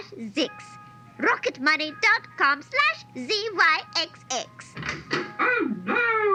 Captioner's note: the royal nursery door opens